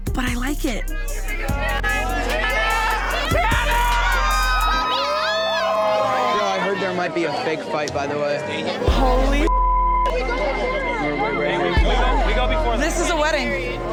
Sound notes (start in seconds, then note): 1.9 crowd cheers; 4.5 crowed cheers; 9.4 beep